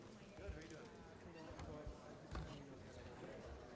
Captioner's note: faintly speaking